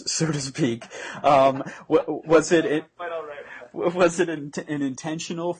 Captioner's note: mad laughing